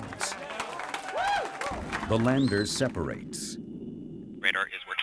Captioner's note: applause